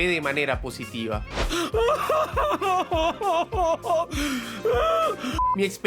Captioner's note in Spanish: Homero llorando